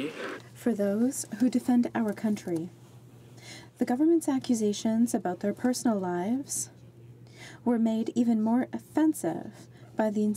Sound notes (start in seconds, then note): 1.5 speaking French